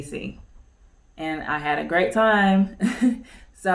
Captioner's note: chuckles